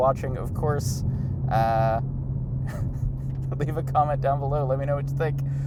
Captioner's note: laughing